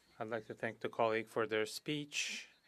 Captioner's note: speaking French